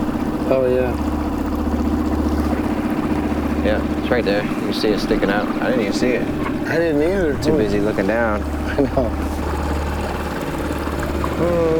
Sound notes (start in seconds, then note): 8.6 laughing; 10.8 water splashing